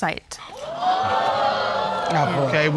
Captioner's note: audience exclaiming